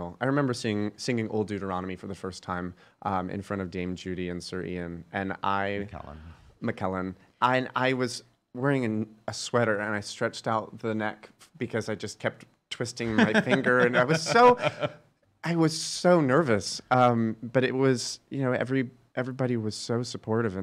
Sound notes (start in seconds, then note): 13.1 laughing